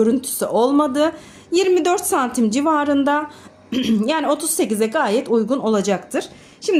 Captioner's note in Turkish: boğazını temizler